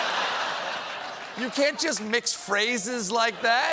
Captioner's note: laughter